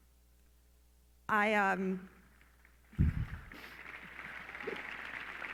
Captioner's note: clapping